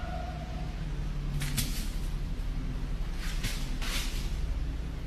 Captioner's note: brush cracking